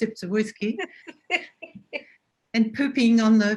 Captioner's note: laughs